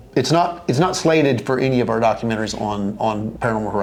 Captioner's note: none